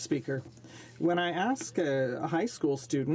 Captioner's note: speaking French